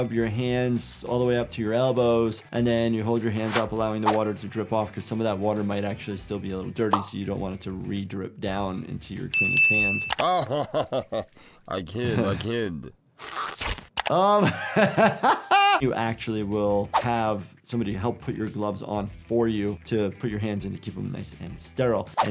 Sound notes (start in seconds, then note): 10.2 Zoidberg laughs; 13.2 gloves squelch; 14.2 laughs